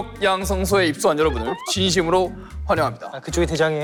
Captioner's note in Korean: 주먹 웃음